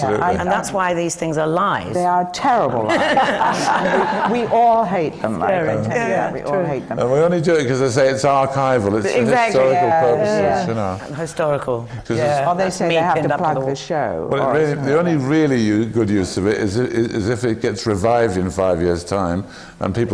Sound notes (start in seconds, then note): 2.8 laughter